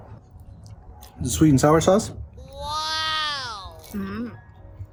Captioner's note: in a high pitch voice